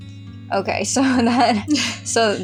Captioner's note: laugh